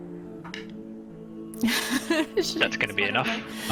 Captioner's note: nervous laugh